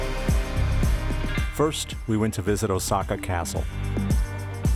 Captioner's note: voiceover